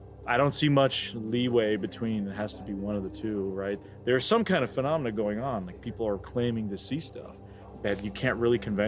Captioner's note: none